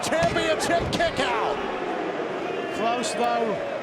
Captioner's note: crowd boos